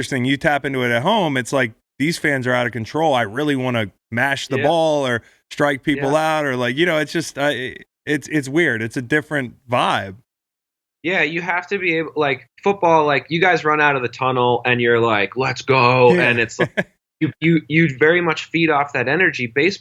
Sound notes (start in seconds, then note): 16.0 laughs